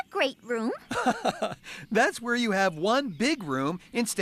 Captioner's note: chuckles